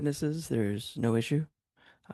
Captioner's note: speaking French